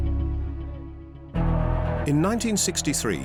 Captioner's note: crowd cheers